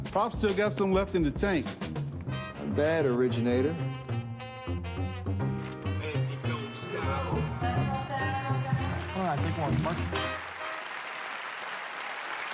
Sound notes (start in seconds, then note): 5.9 chatter; 10.5 applause